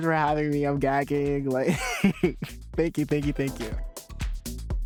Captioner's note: chuckles; upbeat music plays